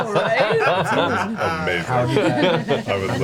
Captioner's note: laughs